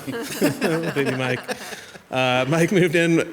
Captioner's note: group laughs